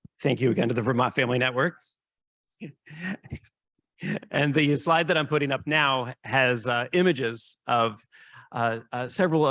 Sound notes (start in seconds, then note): 2.6 laughing